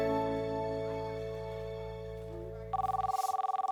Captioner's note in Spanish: Suena el teléfono